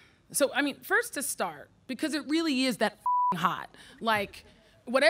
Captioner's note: beep